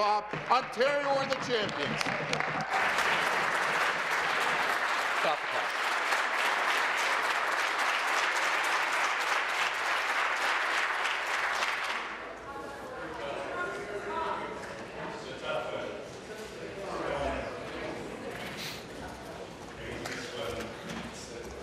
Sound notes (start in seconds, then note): 6.0 applause